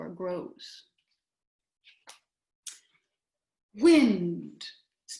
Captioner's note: silence